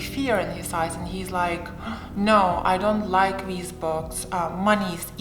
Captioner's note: gasps